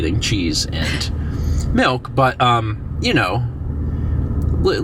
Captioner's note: wheezes